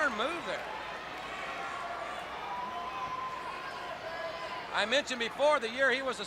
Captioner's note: crowd chatter